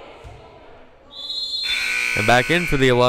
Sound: whistle blowing; loud buzzer blaring

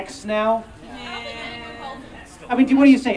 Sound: audience Groans

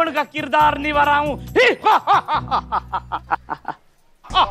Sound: evil laughter

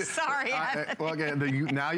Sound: laughter

